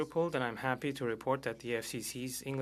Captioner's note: speaking French